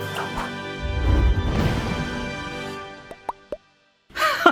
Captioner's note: exciting music; whooshing; chuckles